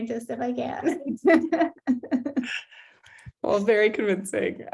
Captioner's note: laughs